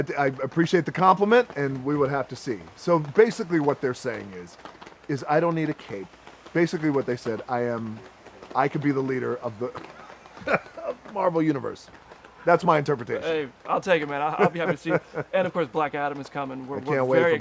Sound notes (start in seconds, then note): 10.4 laughs; 14.2 laughs